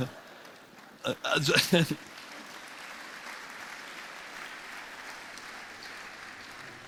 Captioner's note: applause; laughter